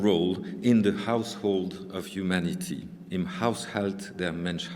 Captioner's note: german